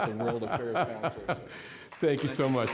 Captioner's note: all laughing